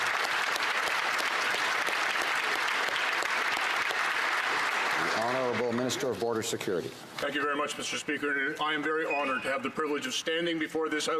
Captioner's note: applause